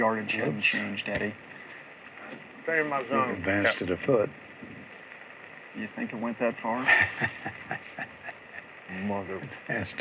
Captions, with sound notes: HIS YARDAGE HASN'T CHANGED, EDDIE. HE ADVANCED IT A FOOT. YOU THINK IT WENT THAT FAR? [ CHUCKLES ] MOTHER...